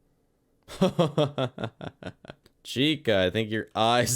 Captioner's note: laugh